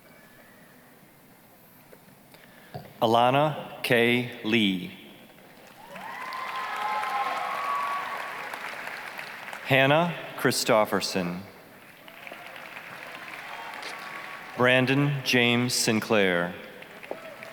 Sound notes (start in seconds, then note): 5.6 applause, cheering; 11.8 applause, cheering